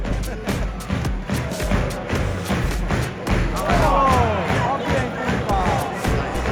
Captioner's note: fans chanting